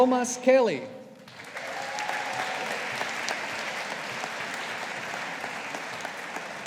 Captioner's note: audience applauding